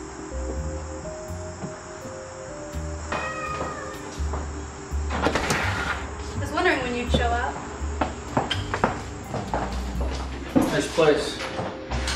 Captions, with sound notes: (Cat meowing) (Door opening) - I was wondering when you'd show up. - Nice place.